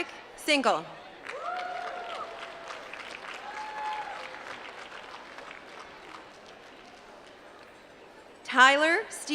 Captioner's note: applause